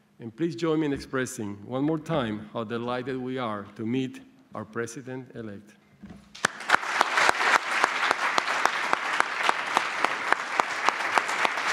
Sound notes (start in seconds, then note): 6.3 applause